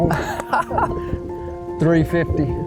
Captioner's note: laughs